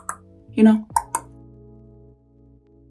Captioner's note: tongue clicking